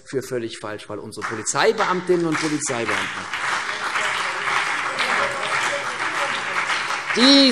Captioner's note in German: Beifall CDU und BÜNDNIS 90/DIE GRÜNEN